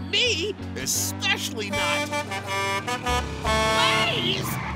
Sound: honking

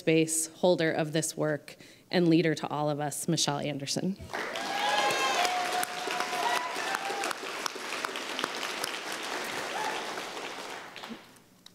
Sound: applause

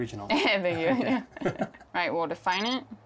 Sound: laughs

